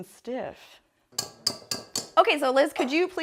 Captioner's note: whisk taps against bowl